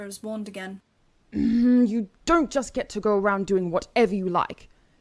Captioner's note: Regulus growls